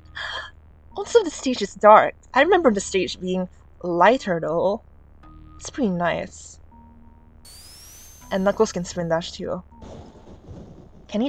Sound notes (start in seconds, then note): 0.0 laugh; 7.4 spindash sound; 9.8 thunder strikes